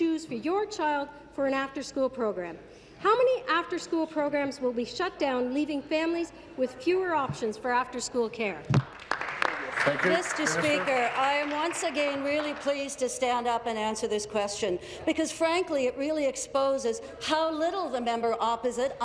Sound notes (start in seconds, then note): 12.9 applause